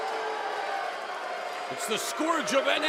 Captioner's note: cheers and boos